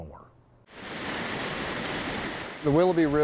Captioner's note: water rushing